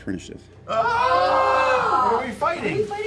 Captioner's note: yelling